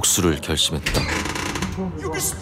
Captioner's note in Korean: 철문 열리는 소리